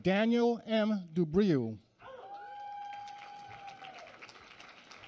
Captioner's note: applause